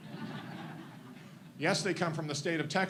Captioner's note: audience laughs